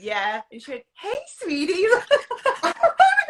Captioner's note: laughs